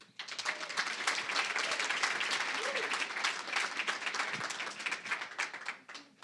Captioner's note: applause